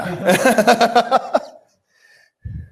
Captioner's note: laughter